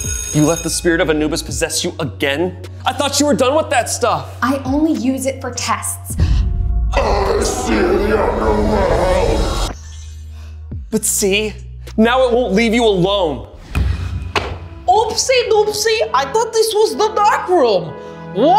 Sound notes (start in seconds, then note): 0.0 bell ringing; 6.5 voice becomes monstrous